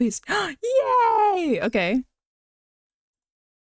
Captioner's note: gasp